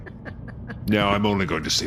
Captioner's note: stifled laugh; quietly but dangerously